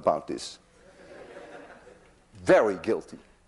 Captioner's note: class laughs